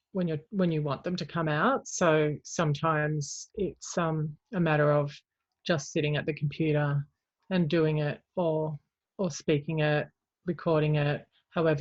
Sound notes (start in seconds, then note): none